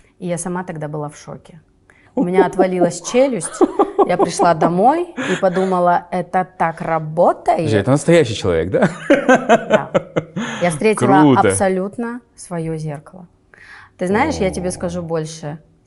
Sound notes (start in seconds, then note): 9.0 laughs